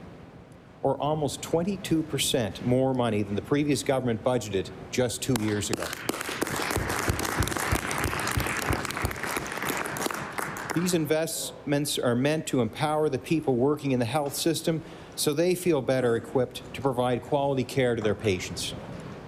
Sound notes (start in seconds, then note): 8.5 applause